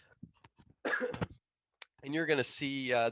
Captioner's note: coughing